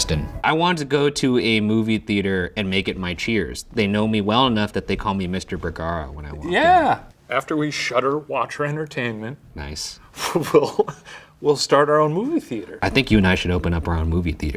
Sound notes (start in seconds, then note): 10.2 laughs